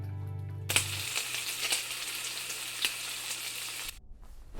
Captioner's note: bacon sizzling